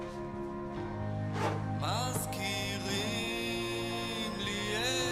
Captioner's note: sonido agua